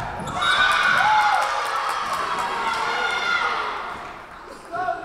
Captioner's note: Tigers cheering; whistle blowing